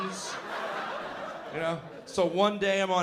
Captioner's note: laughter